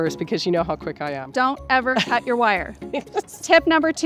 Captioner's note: laughs